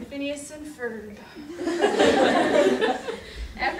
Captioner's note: audience laughter